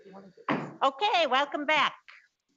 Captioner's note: gavel bangs